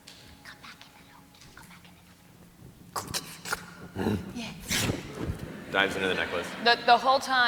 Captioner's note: squish, grunts